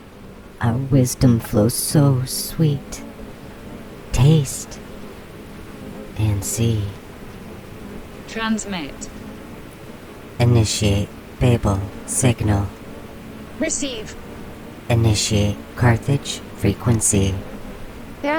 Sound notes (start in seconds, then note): 0.6 the Buzzing voices, female and male